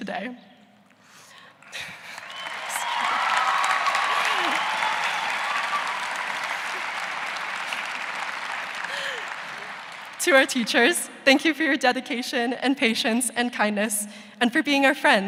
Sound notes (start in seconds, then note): 5.1 cheers and applause